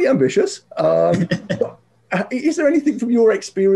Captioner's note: laughs